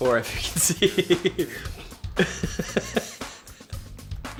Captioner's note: laughs